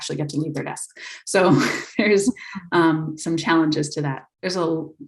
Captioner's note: laughs